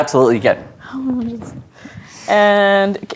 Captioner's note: muttering